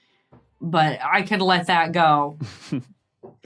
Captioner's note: snickers